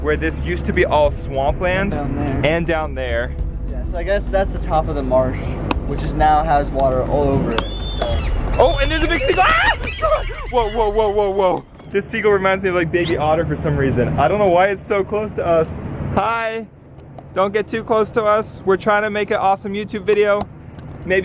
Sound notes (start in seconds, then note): 7.5 bird squawking; 7.5 screaming